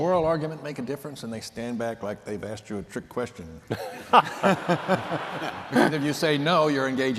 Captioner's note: laughter